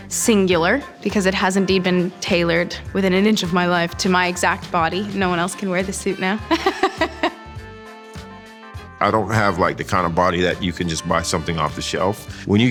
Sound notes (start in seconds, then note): 6.5 laughing